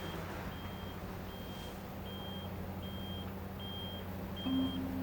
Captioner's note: vehicle beeping